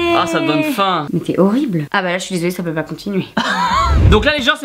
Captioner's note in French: Rires